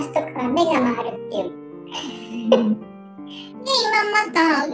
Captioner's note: laughs